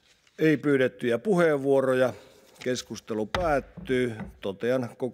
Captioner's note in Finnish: kopauttaa nuijaa